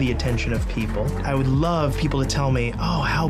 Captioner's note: applause